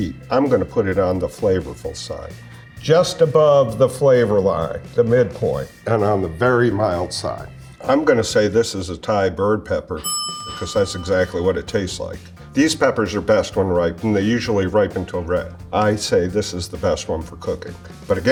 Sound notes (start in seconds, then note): 10.0 bell dings